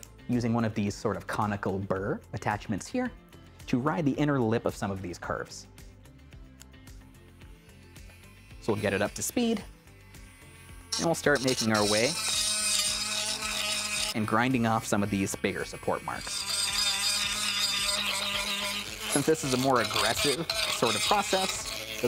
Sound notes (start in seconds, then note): 12.3 tool whirs; 16.3 tool whirs